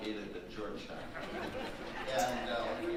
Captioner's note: audience laughing